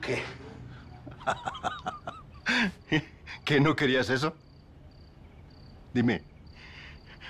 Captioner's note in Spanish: Ríe